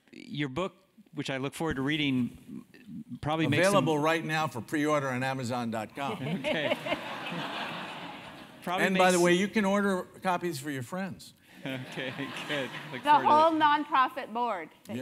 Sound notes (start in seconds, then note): 6.1 laugh; 11.7 laugh